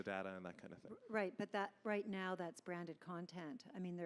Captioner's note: voiceover